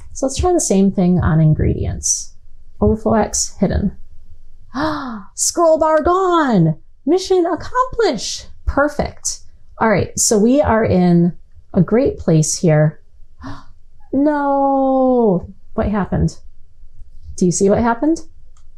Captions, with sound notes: So let's try the same thing on ingredients, overflow x hidden. [GASP] scroll bar gone! Mission accomplished! Perfect. Alright, so we are in a great place here. Oh, no. What happened? Do you see what happened?